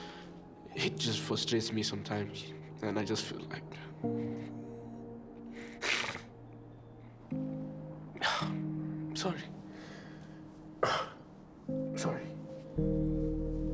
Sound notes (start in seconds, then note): 5.4 sniffing; 7.8 sighing; 13.5 soft music